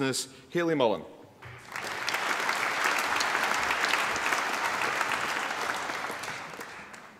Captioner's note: applause